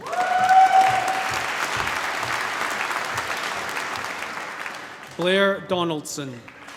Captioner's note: cheering, applause